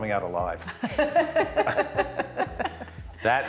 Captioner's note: laughing